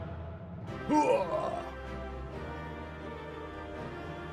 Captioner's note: dramatic music; grunting